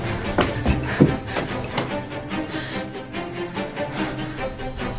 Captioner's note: chains rattling